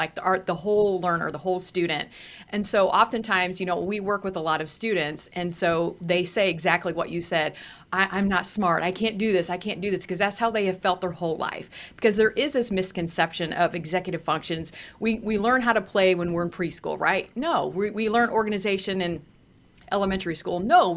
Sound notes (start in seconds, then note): none